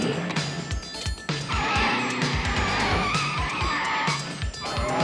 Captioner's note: tires screeching